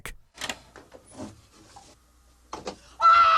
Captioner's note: door opens; screaming